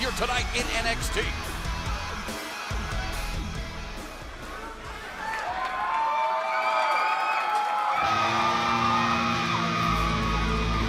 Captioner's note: crowd cheering